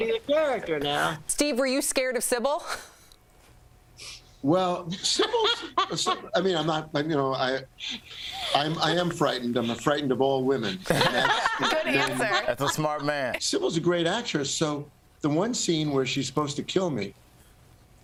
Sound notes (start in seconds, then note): 1.2 laughter; 7.7 laughter